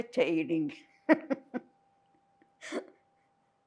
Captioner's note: laughing